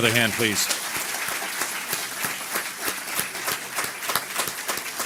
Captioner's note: audience applause